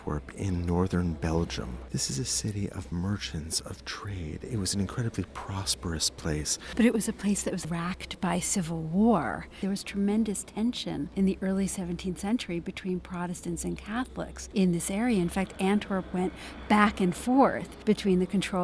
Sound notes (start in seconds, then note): 6.5 voiceover